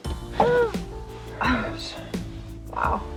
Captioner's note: exclaims